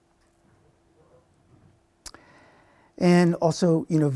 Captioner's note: none